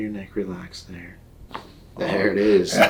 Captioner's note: neck cracks